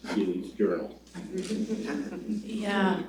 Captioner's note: laughter